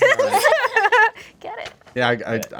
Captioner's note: group laughing